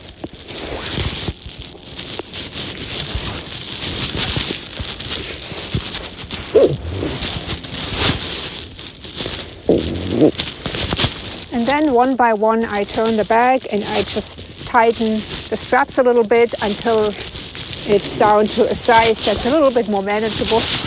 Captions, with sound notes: [Sound of strap tightening] and then, one by one, I turn the bag and I just tighten the straps a little bit until it's down to a size that's a little bit more manageable.